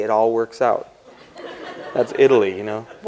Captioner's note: laughter